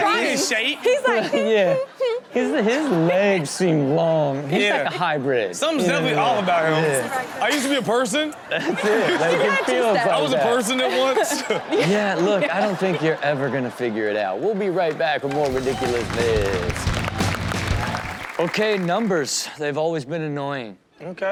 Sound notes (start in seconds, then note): 15.2 audience applauds and cheers; 15.4 upbeat intro music